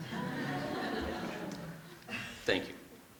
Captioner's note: laughter